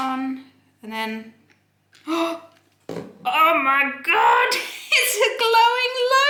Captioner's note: gasps